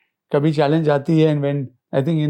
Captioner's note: speaking in foreign language